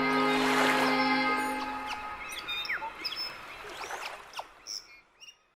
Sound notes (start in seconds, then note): 1.7 birds chirping